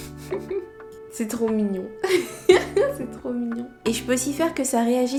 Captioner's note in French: rires